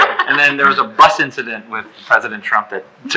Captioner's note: laughing